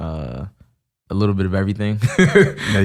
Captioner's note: laughs